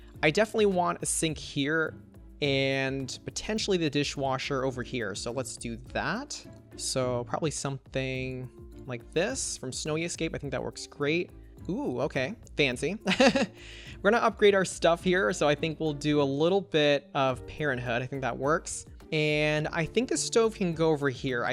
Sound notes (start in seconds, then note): 13.2 laughs